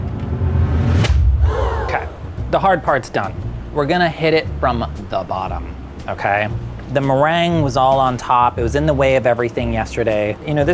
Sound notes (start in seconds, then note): 0.0 intense music; 1.4 gasps